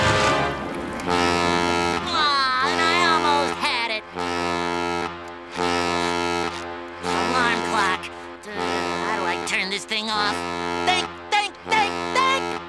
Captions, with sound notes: [horn blowing] Ah, and I almost had it! [horn blowing] Alarm clock, how do I turn this thing off? Think! Think! Think! Think!